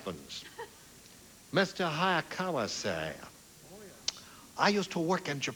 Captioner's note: asian accent